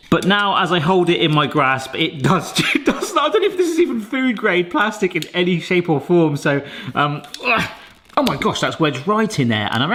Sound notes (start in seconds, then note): 2.8 laughs; 7.5 grunts